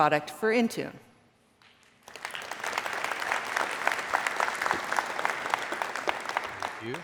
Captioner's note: applause